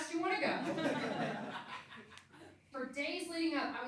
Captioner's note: laughing